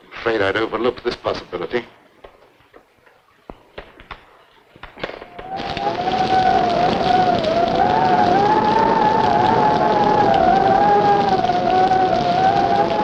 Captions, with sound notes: - I'm afraid I'd overlooked this possibility. (wind howling) (rain pattering)